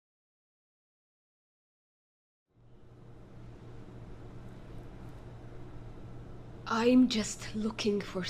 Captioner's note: quiet cafe ambiance